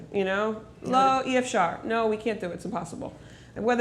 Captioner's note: speaking hebrew